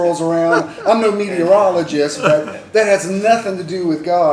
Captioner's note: laughter